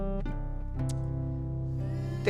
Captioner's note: clicks tongue